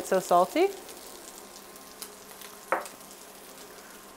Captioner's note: fish sizzling